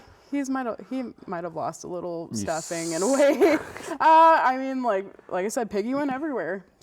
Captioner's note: laughs